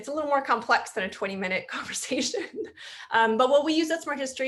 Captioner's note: chuckles